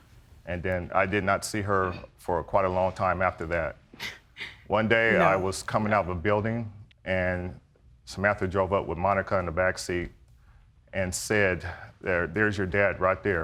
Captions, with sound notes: And then I did not see her for quite a long time after that. (SNICKERS) No! One day, I was coming out of a building and Samantha drove up with Monica in the backseat and said, "There's your dad, right there."